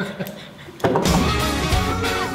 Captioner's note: laughter